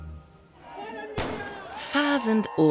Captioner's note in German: Schusssalve